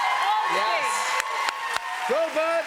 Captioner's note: cheers and applause